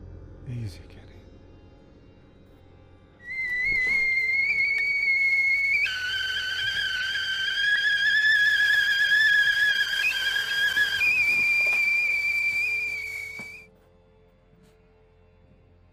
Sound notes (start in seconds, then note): 3.5 teakettle whistling; 6.7 suspenseful music